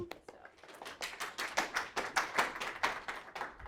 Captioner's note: applause